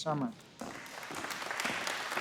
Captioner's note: applause